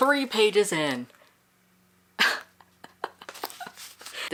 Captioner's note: laughing